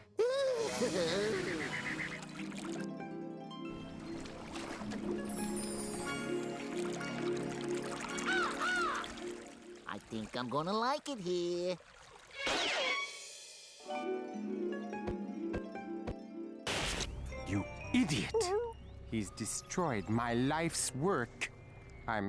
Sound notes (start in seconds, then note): 6.2 water gurgling; 8.2 cawing